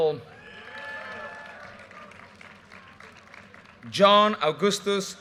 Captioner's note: audience cheers and applause